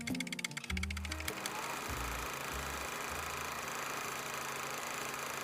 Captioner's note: film projector whirring